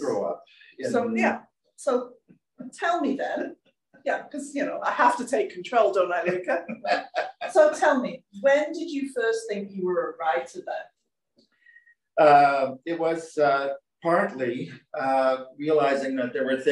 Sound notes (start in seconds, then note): 6.2 laughter